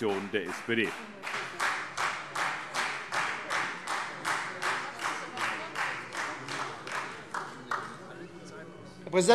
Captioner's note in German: Beifall SPD